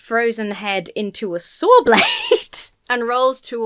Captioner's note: laughs